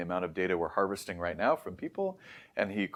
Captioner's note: inhales